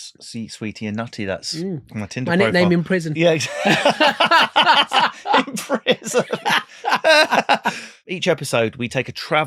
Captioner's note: laughing